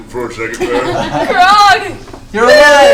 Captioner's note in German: Gelächter